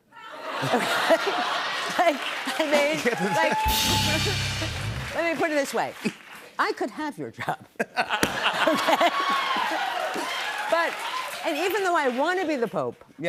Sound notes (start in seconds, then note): 0.2 laughter; 3.6 rimshot; 7.7 laughter